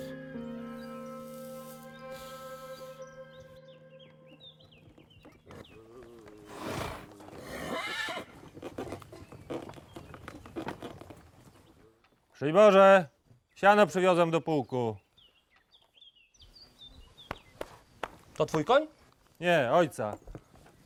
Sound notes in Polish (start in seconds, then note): 4.8 odgłos nadjeżdżającego wozu, niespokojne rżenie koni